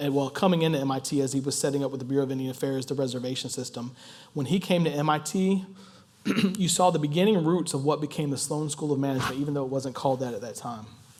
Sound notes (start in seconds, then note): 6.2 cough